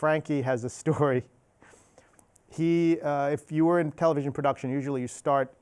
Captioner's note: chuckles